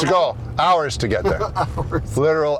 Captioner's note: laughs